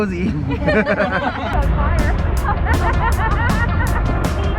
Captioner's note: street and crowd noise